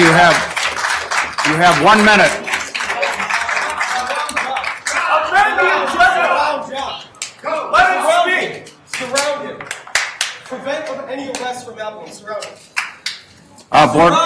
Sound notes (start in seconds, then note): 0.0 attendees applauding; 2.8 attendees clamoring